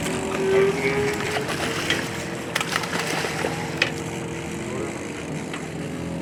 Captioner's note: fish splashing